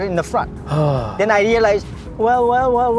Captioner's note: sighs